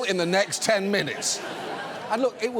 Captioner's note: studio audience laughs